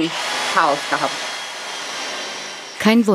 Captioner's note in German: Arbeitsgeräusche